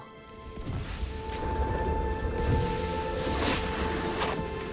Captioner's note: snow crunching; sled scrapes